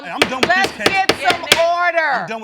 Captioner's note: bangs gavel